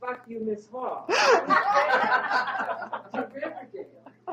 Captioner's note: laughter